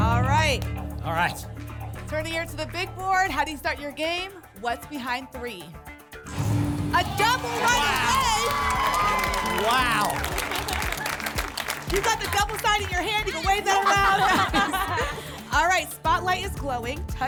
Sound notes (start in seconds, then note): 6.2 booms; 10.5 applause and cheering